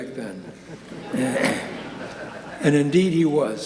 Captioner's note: audience laughing